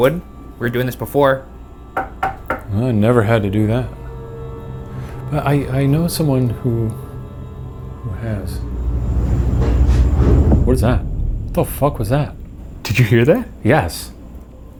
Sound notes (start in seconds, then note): 1.9 knocking; 9.7 item mysteriously banging; 14.6 low ominous music